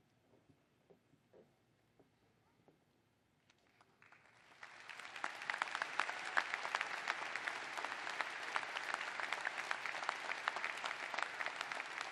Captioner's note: applause